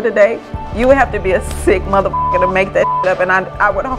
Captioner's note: beep